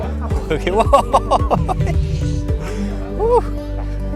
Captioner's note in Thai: เสียงหัวเราะ; เสียงหัวเราะ